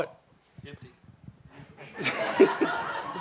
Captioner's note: laughter